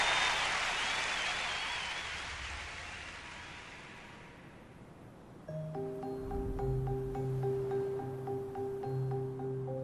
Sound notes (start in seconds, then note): 3.2 applause, cheering subside; 5.4 serene music